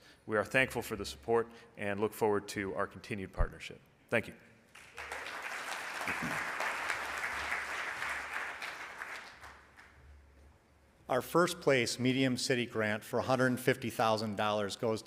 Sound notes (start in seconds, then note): 4.7 audience applauds